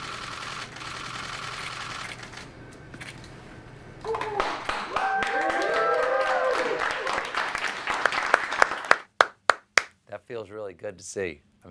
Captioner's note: applause